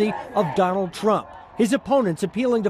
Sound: chanting

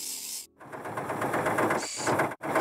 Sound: engine Running

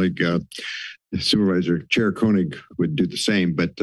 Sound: inhales

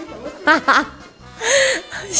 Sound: hahaha

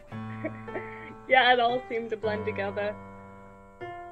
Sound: girl laughs

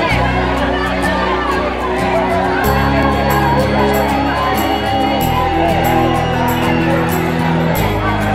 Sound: honking cars

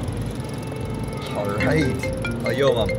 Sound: cell phone rings

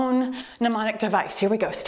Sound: timer beeps

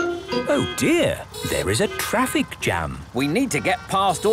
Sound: honking; brakes screeching

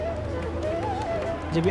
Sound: man's voice

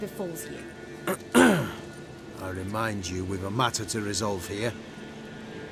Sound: clears throat loudly

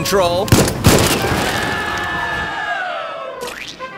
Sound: men yell; bodies splat

